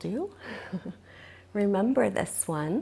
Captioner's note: laughs